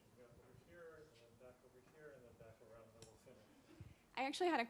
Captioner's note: speaks softly